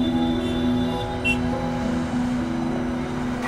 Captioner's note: Cars honking